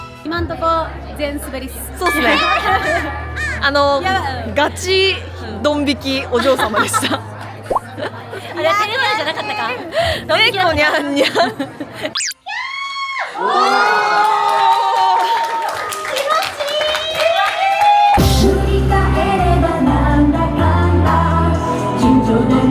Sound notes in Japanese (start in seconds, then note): 12.3 笑い; 12.4 叫び声; 22.4 歌声